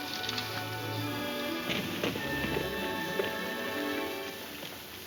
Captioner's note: horses hooves clomping